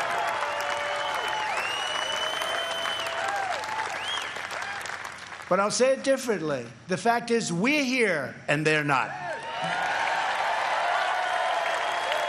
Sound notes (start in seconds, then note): 3.2 applause